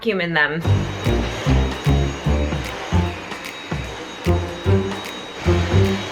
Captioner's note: vacuum hissing